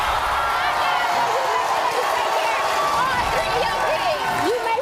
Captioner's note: audience cheering; yelling